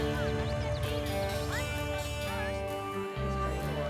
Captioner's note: distant chattering